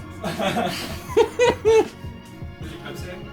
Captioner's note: laughs